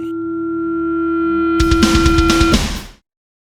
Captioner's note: amp turning on